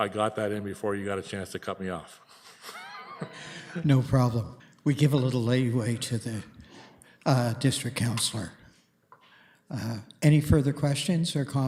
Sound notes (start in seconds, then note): 2.3 laughter